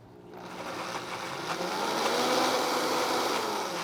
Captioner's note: blender whirrs